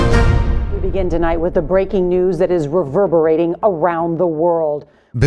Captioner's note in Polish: Wiadomości w TV